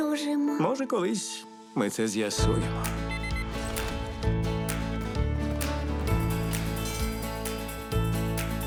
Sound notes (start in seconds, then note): 4.2 cheerful music playing; 6.7 cable car bell rings